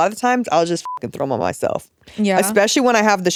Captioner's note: beep